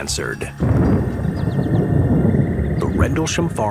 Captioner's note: brooding music; thunder rumbling